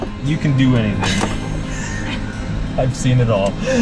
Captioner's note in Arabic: تضحك; ضحكة مكتومة